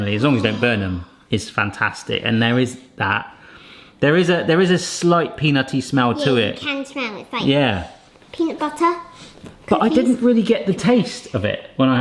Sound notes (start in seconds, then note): 1.7 sighs; 7.8 sniffs